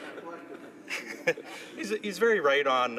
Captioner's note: laughter